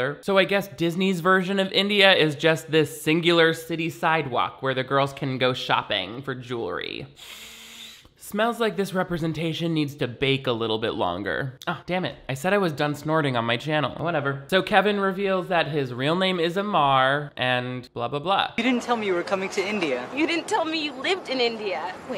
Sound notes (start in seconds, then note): 7.2 sniffs